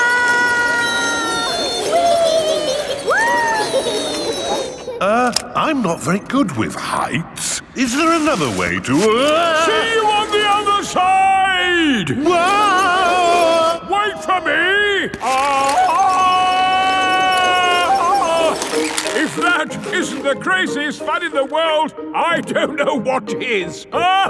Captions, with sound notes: (ALL YELLING) Er, I'm not very good with heights. Is there another way to... See you on the other side! (YELLING) Wait for me! (YELLING) If that isn't the craziest fun in the world, I don't know what is!